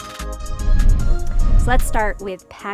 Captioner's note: upbeat music continues; air whooshes